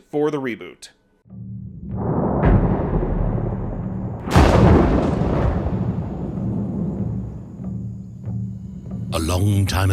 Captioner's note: thunder rumbling